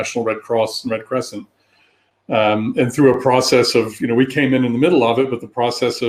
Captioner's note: erm